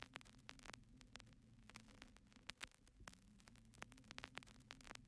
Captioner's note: record player static fuzzing